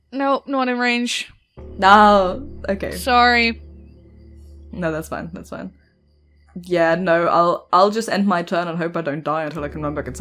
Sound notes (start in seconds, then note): none